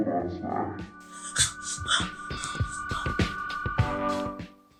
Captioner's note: gasps